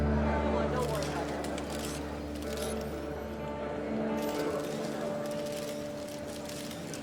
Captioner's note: crowd chattering; cameras clicking